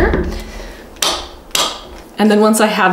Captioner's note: clamp clicking